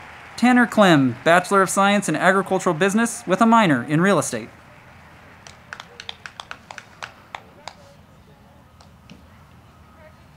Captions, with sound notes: Tanner Clem, Bachelor of Science in Agricultural Business with a Minor in Real Estate. (crowd clapping)